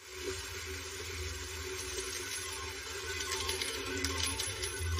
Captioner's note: casino mamachines beeping